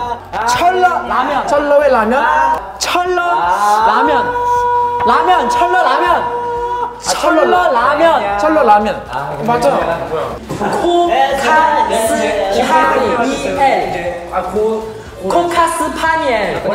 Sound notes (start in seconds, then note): 3.4 slurp